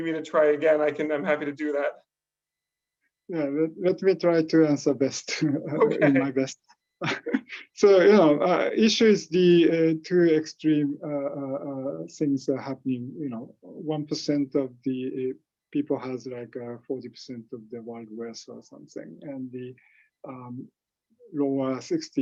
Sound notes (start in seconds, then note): 3.8 laughing